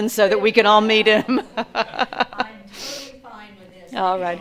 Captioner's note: laughs